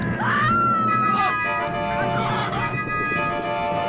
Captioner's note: Lisa screaming